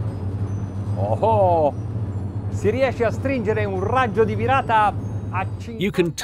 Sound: speaking in foreign language

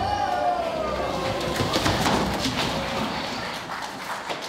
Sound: rumble

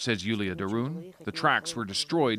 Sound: speaking Foreign Language

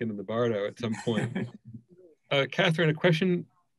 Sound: laughs

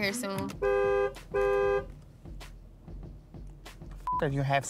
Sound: horn honks

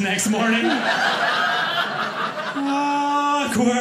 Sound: audience laughing

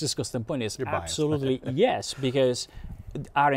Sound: laughs

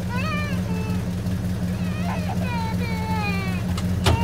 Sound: Enok wailing

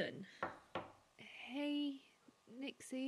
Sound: knock at door

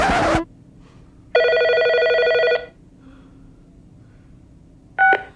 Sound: phone ringing

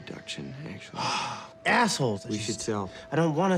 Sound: Rufus sighs

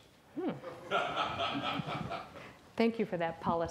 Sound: audience laughs

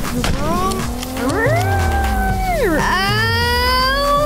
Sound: engine revving; screaming

